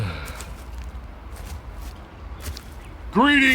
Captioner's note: footsteps across grass